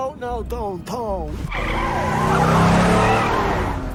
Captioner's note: tires screech